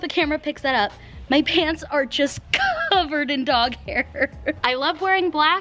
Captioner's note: laughs